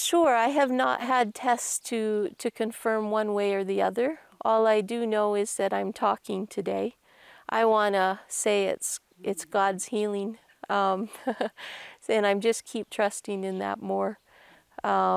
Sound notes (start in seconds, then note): 11.0 laughs